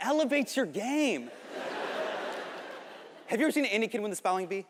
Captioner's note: audience laughing